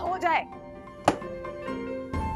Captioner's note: thud